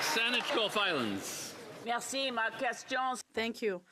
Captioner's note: some Applause